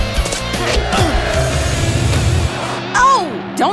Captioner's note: ball whooshing